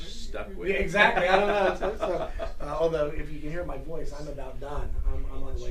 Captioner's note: laughter